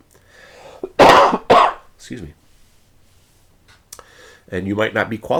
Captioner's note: coughs